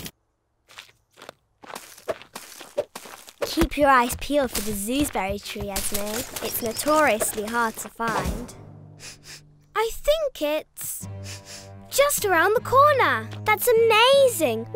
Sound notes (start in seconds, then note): 9.0 sniffs